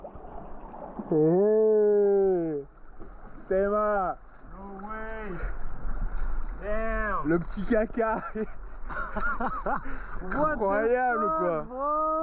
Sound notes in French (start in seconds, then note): 8.1 rires